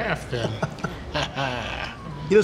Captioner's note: chuckles